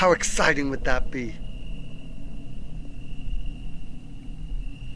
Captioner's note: insects chirping